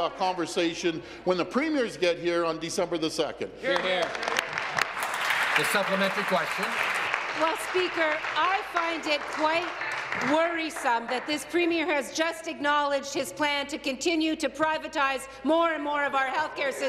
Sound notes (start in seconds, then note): 7.7 applause